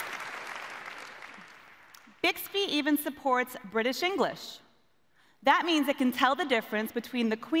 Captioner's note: applause